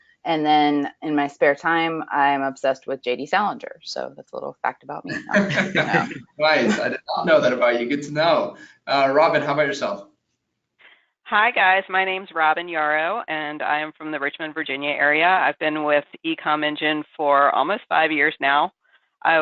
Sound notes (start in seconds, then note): 5.0 laughs